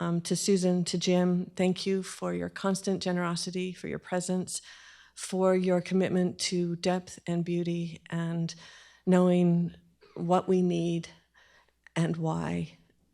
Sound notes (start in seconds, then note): none